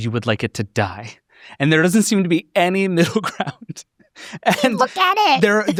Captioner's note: laughs